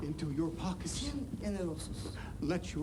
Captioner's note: speaks in foreign language